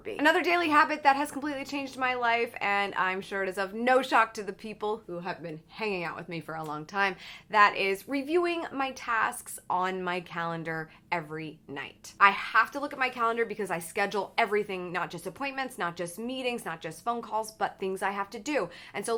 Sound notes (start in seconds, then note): none